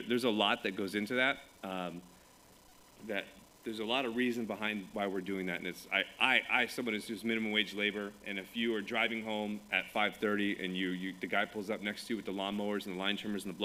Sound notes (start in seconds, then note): none